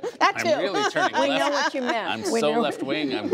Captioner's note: laughter